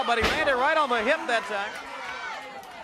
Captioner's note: crowd cheering